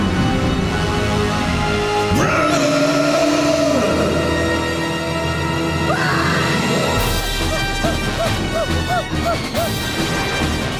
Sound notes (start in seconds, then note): 0.2 growling; 2.2 roars; 7.3 panting